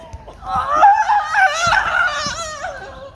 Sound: screaming

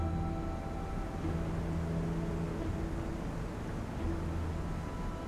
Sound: sound of distant waterfall

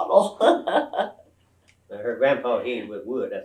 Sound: laughs

